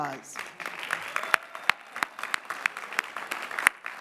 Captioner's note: clapping